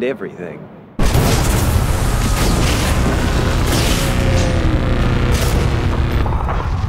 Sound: exploding sounds

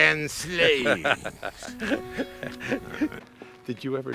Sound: Kevin laughs

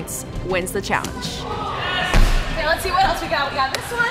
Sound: people cheering

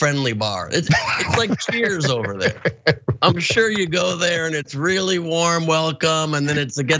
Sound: laugh

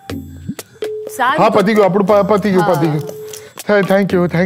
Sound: stammers

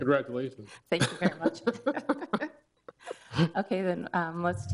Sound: both laugh

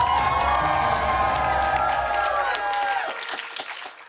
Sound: cheers and applause

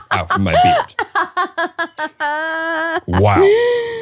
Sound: laughing

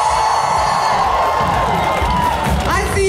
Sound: cheers

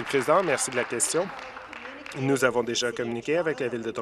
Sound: applause

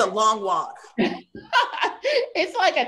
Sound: laughs

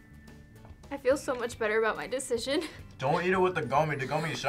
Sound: laughs

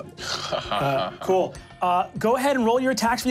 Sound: laughing

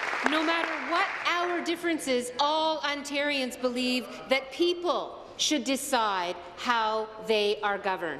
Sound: applause

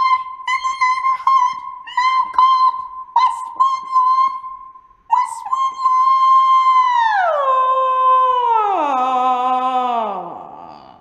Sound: pitch lowers

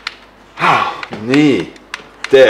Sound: sighs

